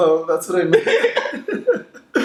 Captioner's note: both laugh